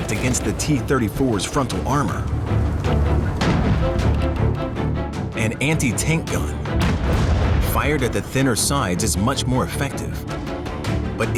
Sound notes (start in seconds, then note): 3.7 guns firing